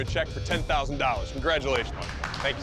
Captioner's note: applause